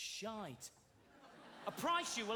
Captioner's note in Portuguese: audience laughing